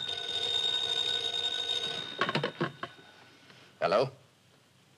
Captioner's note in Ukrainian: дзвінок телефону